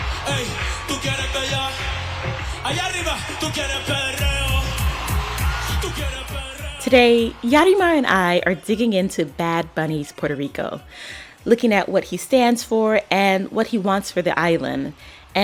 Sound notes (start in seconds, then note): 4.3 soundbite of archived recording; 5.8 singing in Spanish